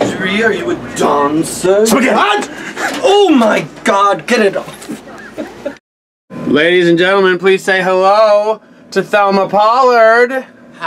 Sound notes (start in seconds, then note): 2.0 screams; 4.7 laughs